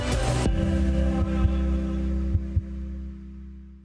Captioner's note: heart beating